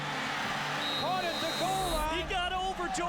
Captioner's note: crowd cheering; whistle screeching